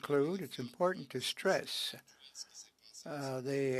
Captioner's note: speaking French